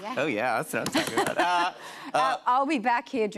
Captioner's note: laughs